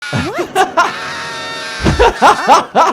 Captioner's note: Kyle screams; laughs